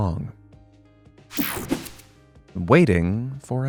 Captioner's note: graphic whooshing